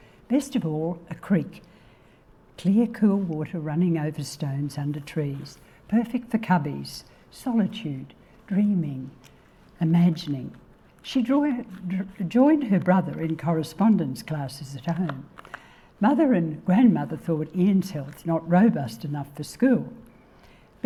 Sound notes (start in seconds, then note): none